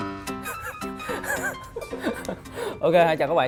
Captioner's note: cringy laugh